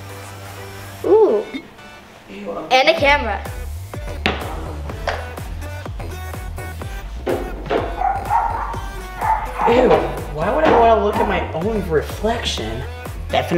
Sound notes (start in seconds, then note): 4.4 items rustle; 7.2 dogs bark